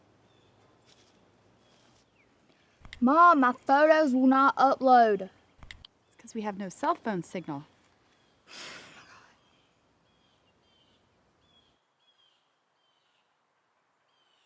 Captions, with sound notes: - Mom, my photos will not upload. - That's because we have no cellphone signal. (daughter sighs)